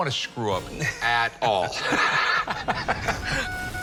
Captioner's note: both laugh; telegraph beeping